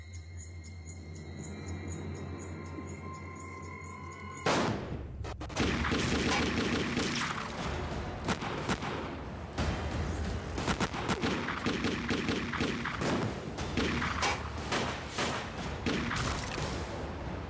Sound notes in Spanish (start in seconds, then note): 5.3 continúa la balacera